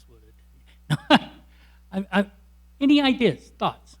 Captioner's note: laughs